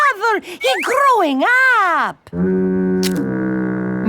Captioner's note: foghorn blows